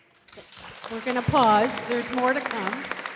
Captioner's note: audience applause